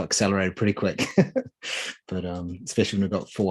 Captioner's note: chuckling